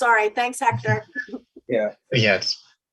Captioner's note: laughs